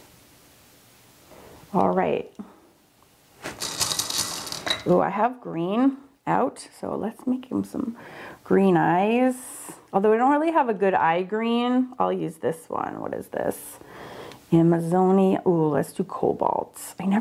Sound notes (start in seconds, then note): none